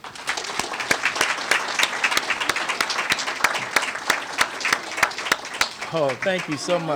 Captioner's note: applause